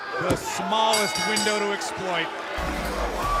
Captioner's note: bell